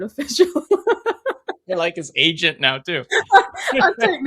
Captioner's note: laughs